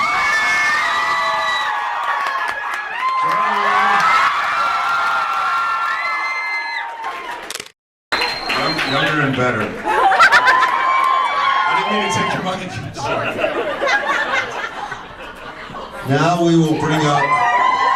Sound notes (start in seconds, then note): 0.0 audience screams and cheers; 3.9 audience cheers and screams; 9.8 audience laughs and cheers